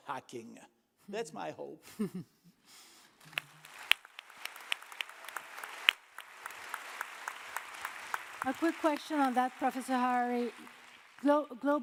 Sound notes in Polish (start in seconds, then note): 3.2 oklaski